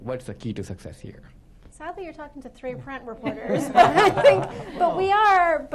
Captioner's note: laughter